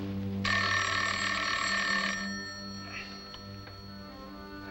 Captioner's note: phone ringing